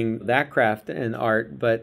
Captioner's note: none